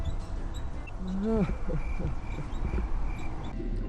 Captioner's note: desperate laugh